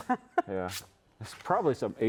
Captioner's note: laughing